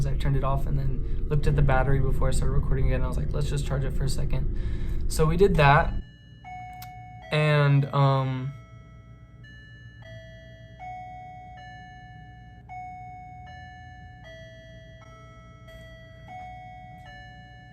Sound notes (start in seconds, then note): 6.7 clock noises